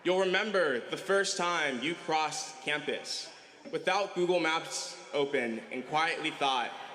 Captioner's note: cheering